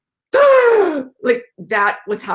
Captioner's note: gasps dramatically